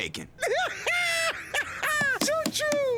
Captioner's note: laughing hysterically